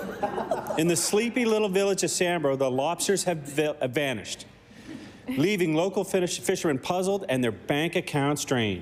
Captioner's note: laughter